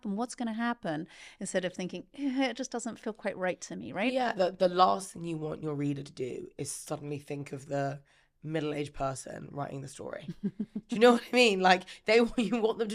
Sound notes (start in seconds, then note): 10.2 laughing